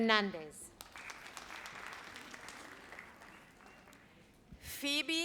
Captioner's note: audience applauds